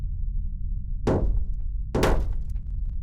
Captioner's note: banging